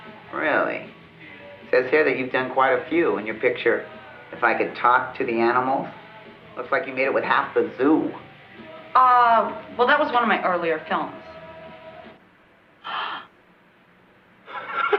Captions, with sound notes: - Really? It says here that you've done quite a few in your picture, "If I Could Talk to the Animals." Looks like you made it with half the zoo. - Uh, well, that was one of my earlier films. (gasping)